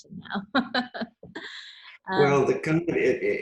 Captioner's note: laughs